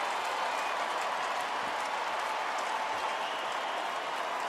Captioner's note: crowd cheering